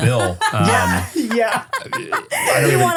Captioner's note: laughs